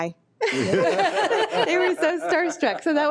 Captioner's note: people laughing